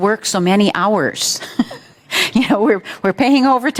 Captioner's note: chuckles